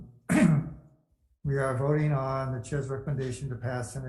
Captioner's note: clear throat